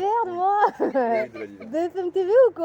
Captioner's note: kid's laughing